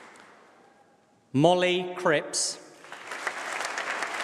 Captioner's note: applause